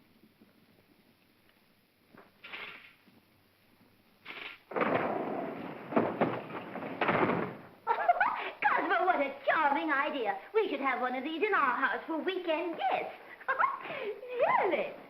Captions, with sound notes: (grinding sound) (chair clatters) - (laughing) Cosmo, what a charming idea! We should have one of these in our house for weekend guests...really.